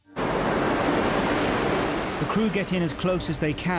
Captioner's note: gentle music; waves roaring